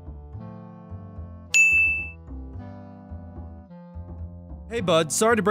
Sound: bell chimes

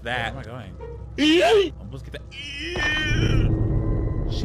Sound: character screams

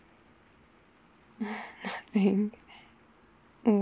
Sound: laughs

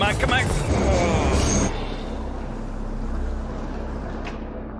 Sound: train screeches away

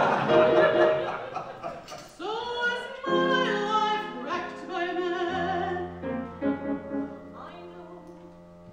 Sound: audience laughs

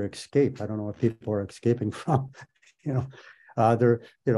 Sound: laughs

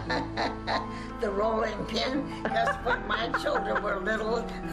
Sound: laughs

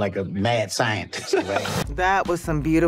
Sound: laughs

